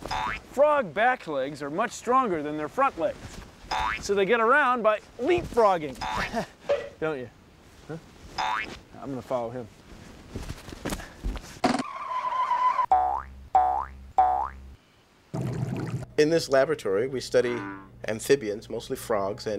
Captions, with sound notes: FROG BACK LEGS ARE MUCH STRONGER THAN THEIR FRONT LEGS, SO THEY GET AROUND BY LEAPFROGGING. [ CHUCKLES ] DON'T YOU? HUH? I'M GONNA FOLLOW HIM. [ TIRES SCREECH ] [ BOING! BOING! BOING! ] IN THIS LABORATORY, WE STUDY AMPHIBIANS -- MOSTLY FROGS.